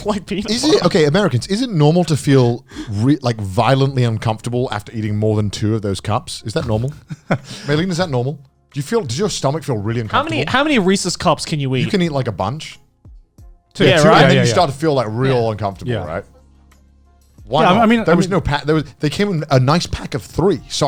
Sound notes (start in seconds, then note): 0.4 laughing; 6.8 chuckles